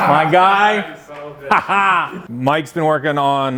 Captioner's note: laughs